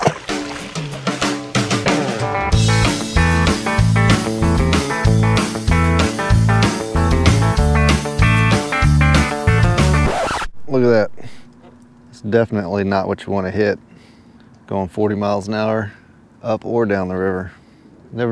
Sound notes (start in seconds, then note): 0.0 water splash; 2.2 lively music; 9.8 record scratching